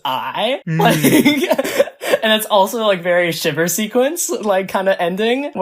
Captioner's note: laughs